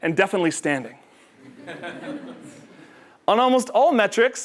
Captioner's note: laugh